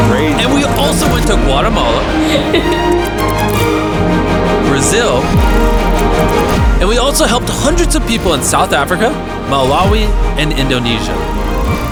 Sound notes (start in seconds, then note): 2.1 recipient laughing